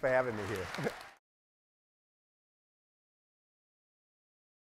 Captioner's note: audience applauds